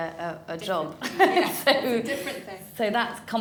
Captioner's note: laughs